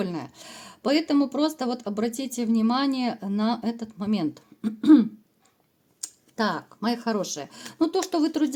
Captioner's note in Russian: откашливается